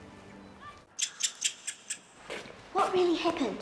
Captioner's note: mice squeaking